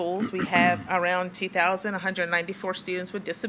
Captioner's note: attendee clears throat